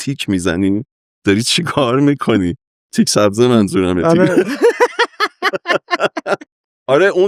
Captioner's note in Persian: خنده